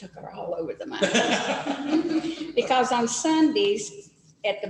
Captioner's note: laughter